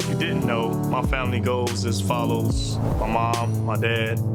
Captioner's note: scene whooshing